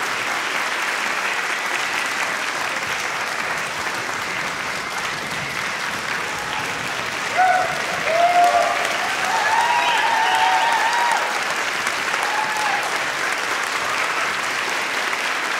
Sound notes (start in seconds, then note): 7.5 audience cheering